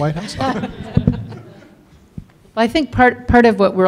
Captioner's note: audience laughs